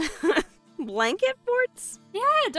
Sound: laughs

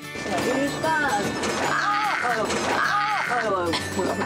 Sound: rattling

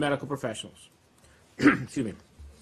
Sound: coughs

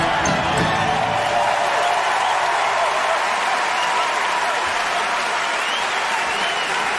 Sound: applause

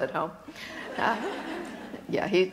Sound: laughter

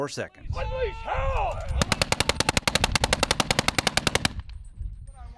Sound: screaming; gun fires

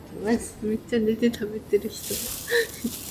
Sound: laughs

